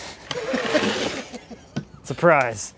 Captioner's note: laughing